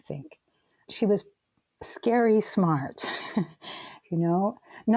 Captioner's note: chuckling